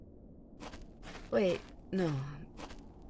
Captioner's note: footsteps start and stop